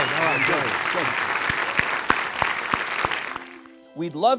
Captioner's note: audience cheering